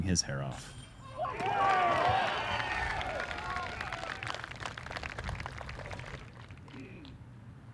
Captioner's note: applause